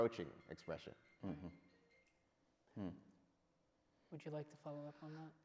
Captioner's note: phone rings